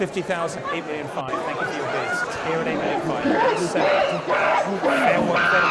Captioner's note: guerrillas screaming